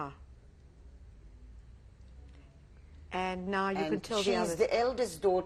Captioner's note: pauses for 3 seconds